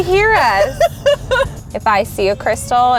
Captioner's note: laughing